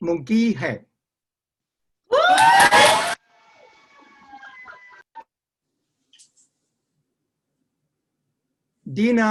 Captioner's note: cheering